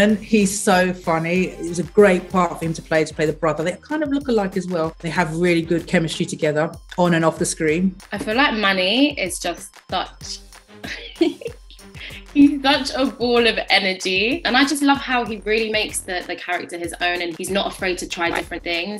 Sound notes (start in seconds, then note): 10.8 giggles